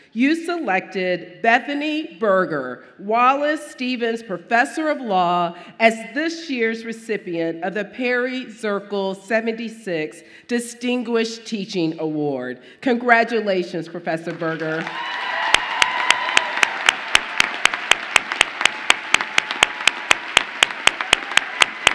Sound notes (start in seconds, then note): 14.6 audience applauding and cheering